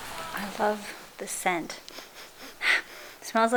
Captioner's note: sniff sniff